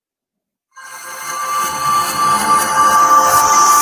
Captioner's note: whooshing